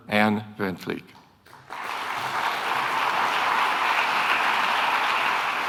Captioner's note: audience applauding